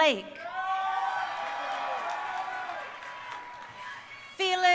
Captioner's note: crowd cheering